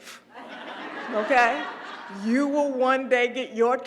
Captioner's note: laugh